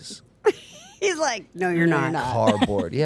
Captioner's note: laughing